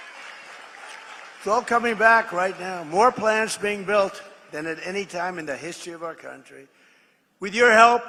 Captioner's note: applause